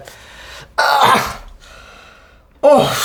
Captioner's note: grunting in pain